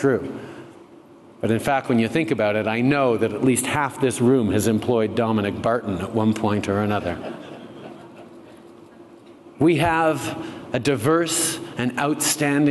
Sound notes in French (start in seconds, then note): 7.1 Rires